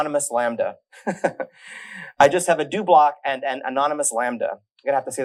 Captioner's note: laughs